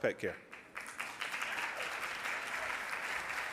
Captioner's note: applause